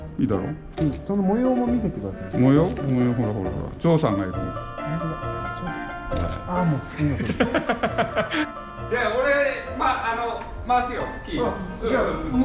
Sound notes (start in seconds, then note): 6.9 laughing